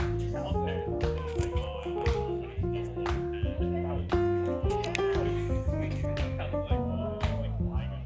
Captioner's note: people chattering